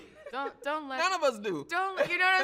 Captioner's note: chuckles